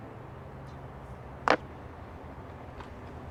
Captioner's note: disc slams